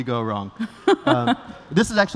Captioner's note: laughter